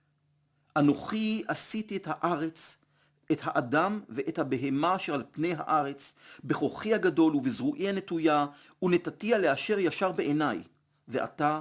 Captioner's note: Hebrew